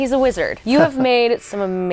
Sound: laughing

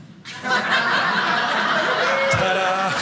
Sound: audience laughing

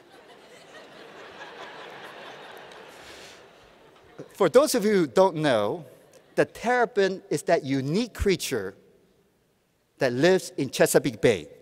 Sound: laughter

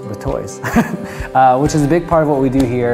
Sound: laughs

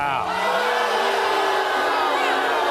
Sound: crowd jeers

